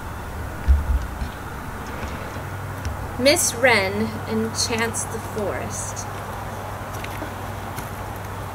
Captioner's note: birds and wind noise